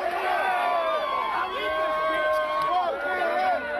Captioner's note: cheering and applause